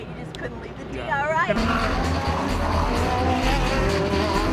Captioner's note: engines revving